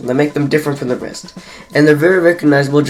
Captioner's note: breath